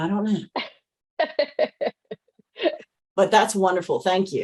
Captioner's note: laughs